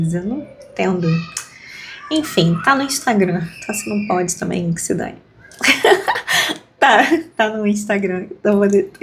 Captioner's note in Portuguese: risadas